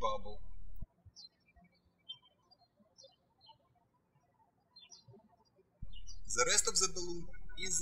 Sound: birds chirping

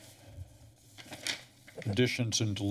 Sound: pages turning

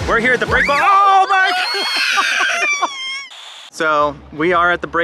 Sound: crying

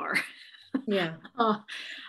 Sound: chuckles

